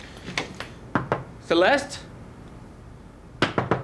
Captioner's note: knocking